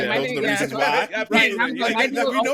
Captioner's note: laughing